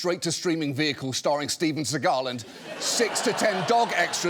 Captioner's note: audience laughing